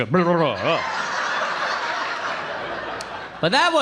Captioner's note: audience laughing